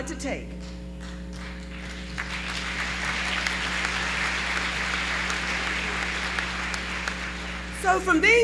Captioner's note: applause